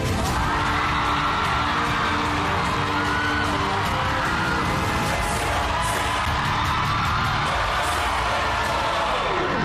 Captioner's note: crowd cheering, applauding